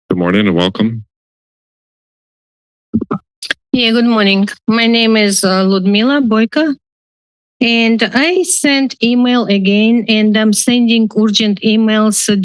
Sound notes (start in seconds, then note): 3.0 mic rustling